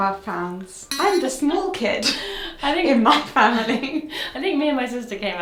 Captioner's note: chuckles